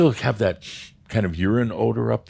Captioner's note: sniff!